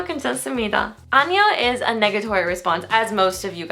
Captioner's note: foreign language